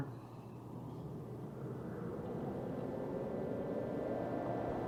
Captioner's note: wind blowing